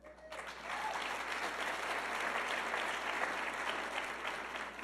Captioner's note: audience clapping